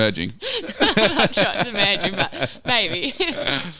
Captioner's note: laughing